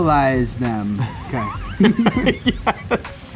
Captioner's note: both laughing